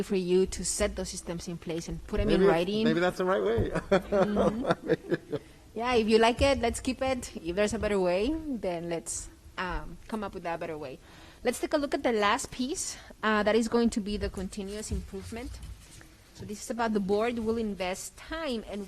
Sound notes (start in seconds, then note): 3.7 laughs